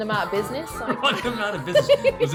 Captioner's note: laughs